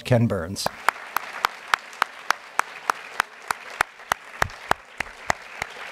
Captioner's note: applause